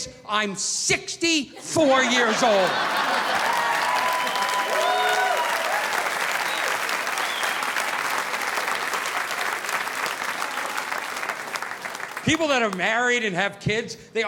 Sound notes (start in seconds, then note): 1.5 audience laughing; 2.4 audience applauding